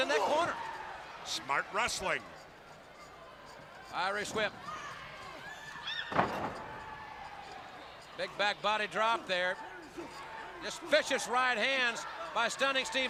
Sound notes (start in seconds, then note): 6.8 crowd chatter